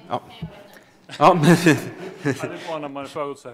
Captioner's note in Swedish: Skratt